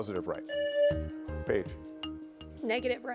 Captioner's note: buzzer buzzing